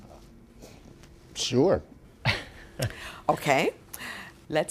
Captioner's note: laughs